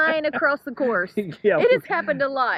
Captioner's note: laughing